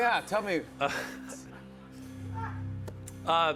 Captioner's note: laughs